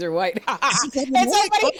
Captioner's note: laughter